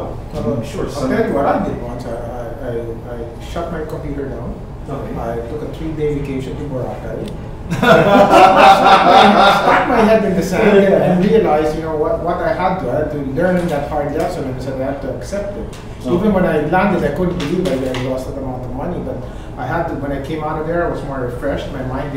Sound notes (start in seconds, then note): 7.7 everyone laughing